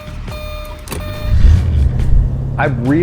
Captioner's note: car engine starting